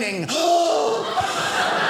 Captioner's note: gasping; audience laughing